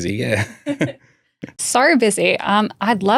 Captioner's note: laughing